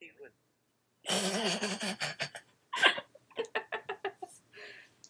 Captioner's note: snort-laughing